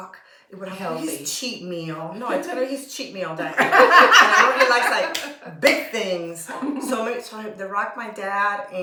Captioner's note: laughter